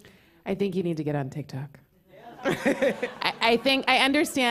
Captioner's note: laughter